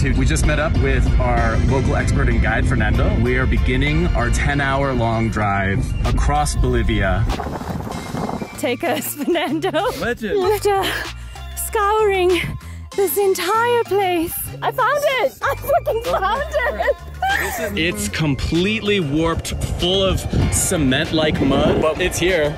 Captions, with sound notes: We just met up with our local expert in guide Fernando. We are beginning our 10-hour long drive across Bolivia. [Wind sound] Take us Fernando. Legend. After just scouring this entire place. I found it. I f***ing found it. [Excited scream] It's completely warped full of cement-like mud. But it's here.